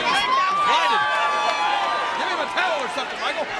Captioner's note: crowd chattering